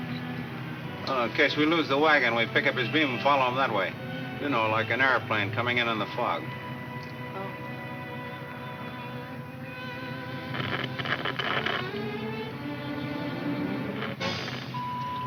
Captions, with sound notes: - In case we lose the wagon, we pick up his beam and follow them that way. You know, like an airplane coming in on the fog. - Oh. (radio crackles) (radio beeps) - There it is.